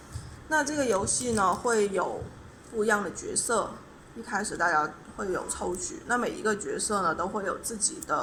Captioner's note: explaining in Chinese